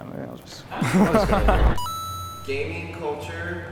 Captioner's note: laughter